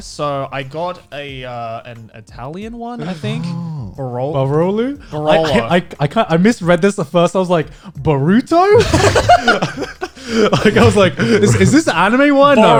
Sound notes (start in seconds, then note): 8.6 guys laughing